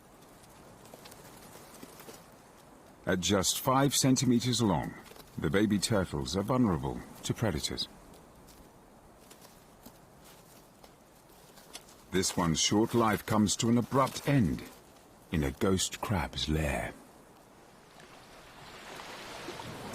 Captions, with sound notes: This one's short life comes to an abrupt end in a ghost crab's layer. (waves crashing) Those that make it to the sea take their first swim, and just keep on going.